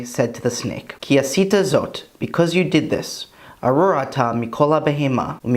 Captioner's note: Hebrew